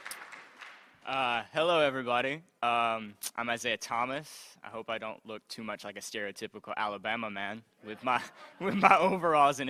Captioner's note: applause